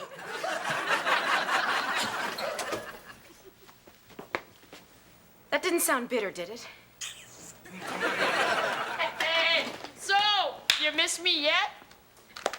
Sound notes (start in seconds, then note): 0.0 audience laughing; 7.0 Kevin sucks teeth; 7.6 audience laughing